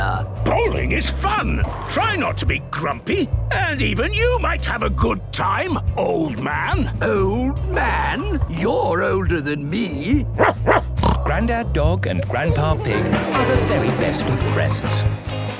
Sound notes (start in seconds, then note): 10.3 barking, snorting